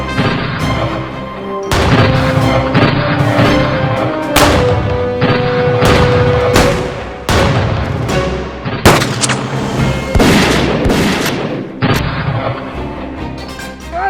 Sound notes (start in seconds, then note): 3.4 guns firing